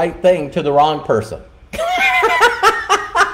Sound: laughing

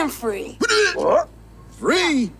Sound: stunned noise

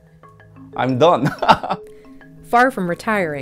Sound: laughing

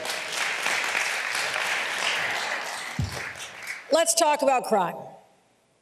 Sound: applause

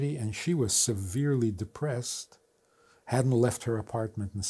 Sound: none

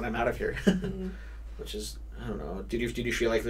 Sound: laughs

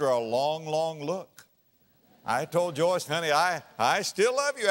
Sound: audience laughter

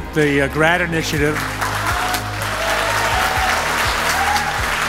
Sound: audience applause

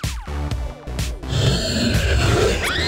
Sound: screaming

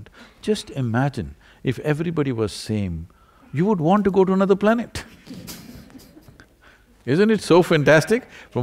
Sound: laughter

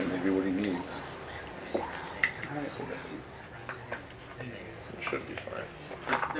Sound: ghostly whispering

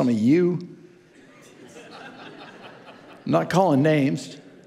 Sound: congregants laughing

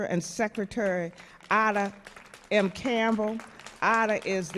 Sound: audience clapping

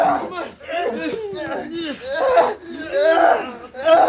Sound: more grunting and groaning

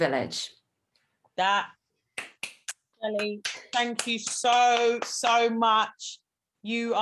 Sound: applauds

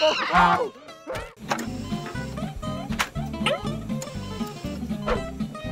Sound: beeping

